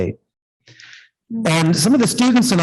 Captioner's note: indistinct conversation